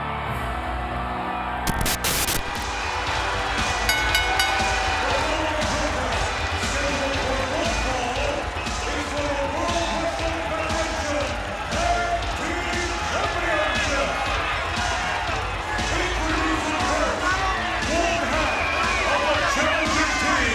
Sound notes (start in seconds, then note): 2.8 upbeat music; 3.5 bell rings